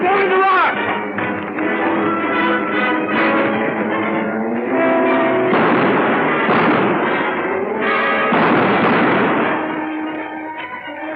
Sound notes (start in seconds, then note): 5.5 gunshots